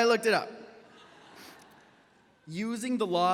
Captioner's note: audience laughs